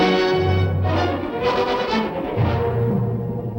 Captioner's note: none